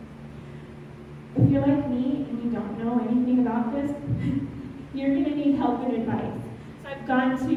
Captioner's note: chuckle